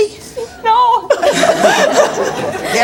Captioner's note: laughing